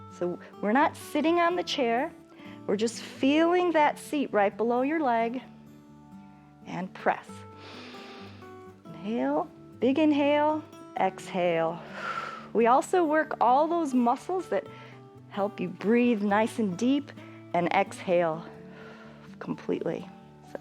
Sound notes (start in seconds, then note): 7.5 inhales; 11.5 exhales